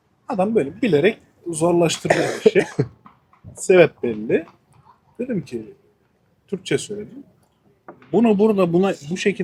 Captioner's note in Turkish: kahkaha